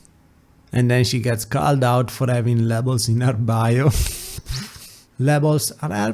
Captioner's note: laughs